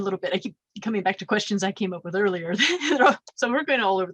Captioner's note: laughs